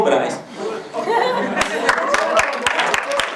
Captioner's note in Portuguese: Palmas e exclamações